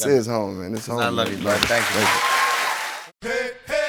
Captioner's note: cheers and applause